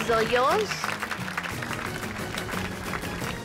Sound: applause

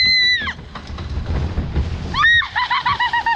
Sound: shrieks; splashing; laughing

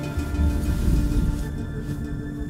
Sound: distant thunder

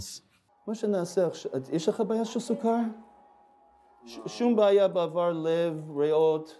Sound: medics speak foreign language

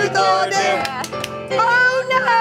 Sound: clapping

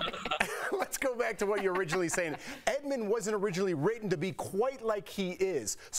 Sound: laughter

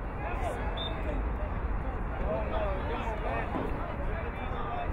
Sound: whistle blowing

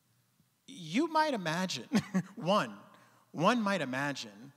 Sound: chuckling

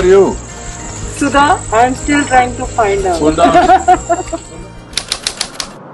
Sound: laughs

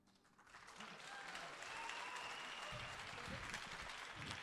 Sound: audience applauding

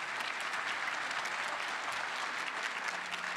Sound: applause

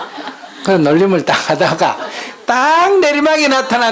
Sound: audience Laughter

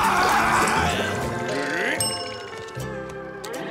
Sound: screaming; dinging

